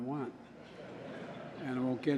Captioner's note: laughter